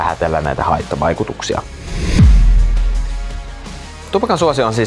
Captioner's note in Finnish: siirtymä-äänitehoste